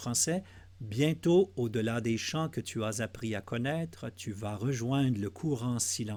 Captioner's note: translating in French